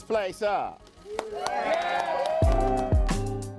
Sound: people cheering; upbeat music

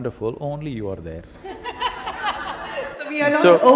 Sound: laughter

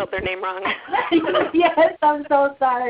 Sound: laughter

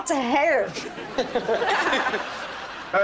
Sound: laughing

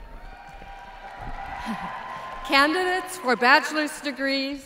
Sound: applause

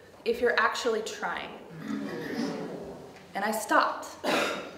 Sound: a few audience members make a disapproving sound

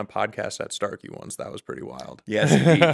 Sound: laughing

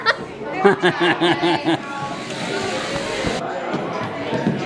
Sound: laughs

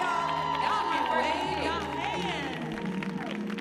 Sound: audience cheering

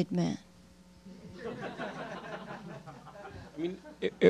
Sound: laughter

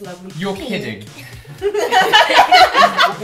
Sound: laughter

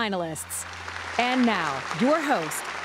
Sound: applause

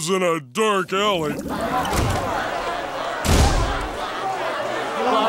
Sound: chattering

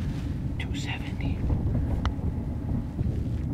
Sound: whispering

